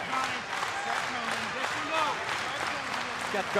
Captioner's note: crowd cheering